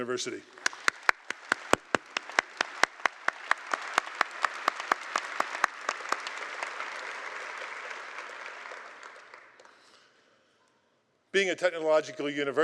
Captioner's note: applause